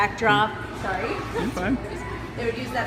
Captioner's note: laughs